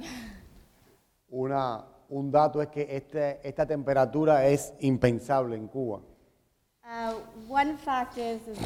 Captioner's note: speaking in Spanish